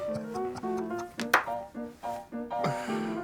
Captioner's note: narrator laughs and claps; jazz music